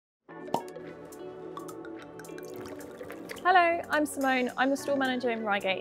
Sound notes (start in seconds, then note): 0.3 soft music; 0.5 popping